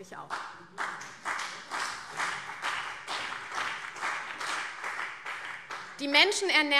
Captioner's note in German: Heiterkeit und Beifall CDU und BÜNDNIS 90/DIE GRÜNEN